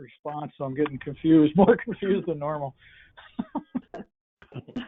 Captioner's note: laughs